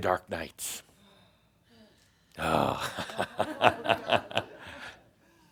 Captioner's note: several people sigh audibly; Adamus chuckles